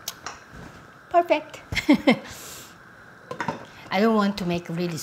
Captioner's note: chuckling